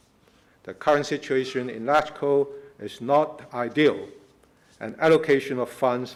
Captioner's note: foreign words